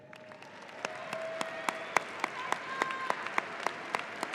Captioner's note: audience applauding